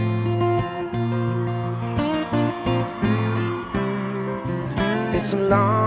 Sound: crowd cheering; gentle music continues

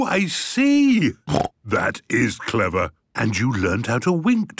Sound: snort

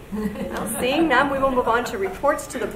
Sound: audience laughs

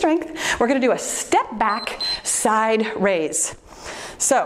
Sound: timer beeps

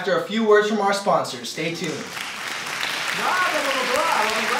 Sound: audience applauds

